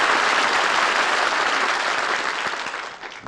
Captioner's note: applause